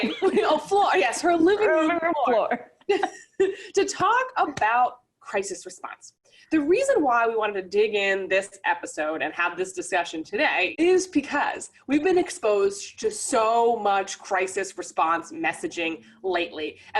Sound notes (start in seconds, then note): 2.4 laughing